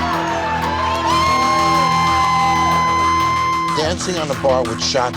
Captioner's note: cheers